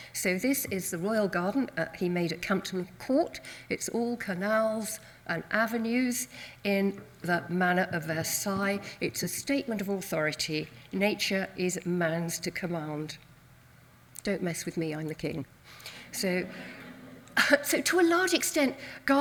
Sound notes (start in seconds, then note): 16.4 audience laughs